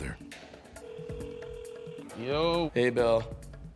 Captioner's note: telephone rings